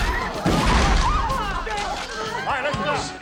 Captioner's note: electrical blast; gun banging; crowd screaming